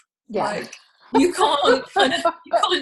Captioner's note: laughs